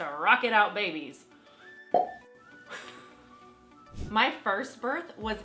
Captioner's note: tongue clicking